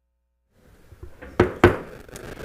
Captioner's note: gavel hitting dais